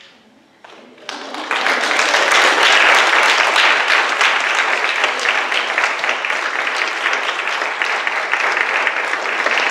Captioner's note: clapping